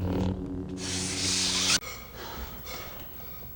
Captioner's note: lightsaber retracts